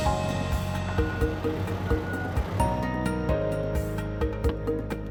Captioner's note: forklift beeping